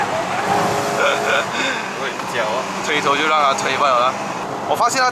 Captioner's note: tires screech